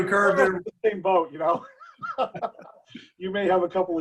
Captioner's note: murmurs; laughs